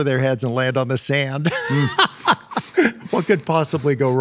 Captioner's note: laughs